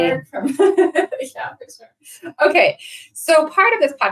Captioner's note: laughs